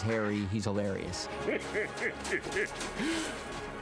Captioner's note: chortling